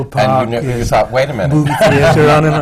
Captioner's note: laughter